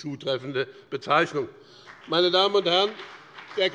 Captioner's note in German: Beifall bei dem BÜNDNIS 90/DIE GRÜNEN und der CDU